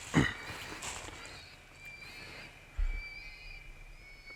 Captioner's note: animal calls continue